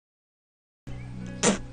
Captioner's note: spit